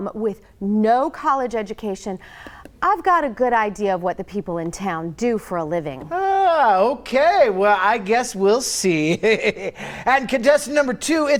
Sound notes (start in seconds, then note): 9.1 chuckles